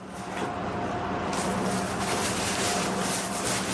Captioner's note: paper rustling